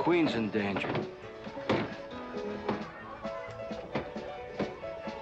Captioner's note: doors banging; lively saloon music